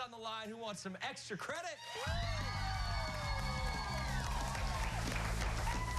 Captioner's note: cheers and applause